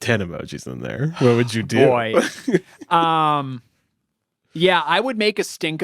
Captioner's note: sighs